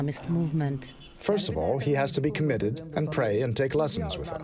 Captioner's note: through translator